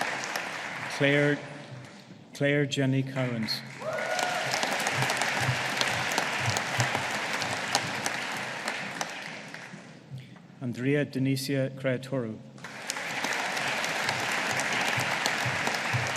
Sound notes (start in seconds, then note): 3.2 audience applauding; 12.6 audience applauding